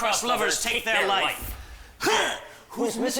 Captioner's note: both grunt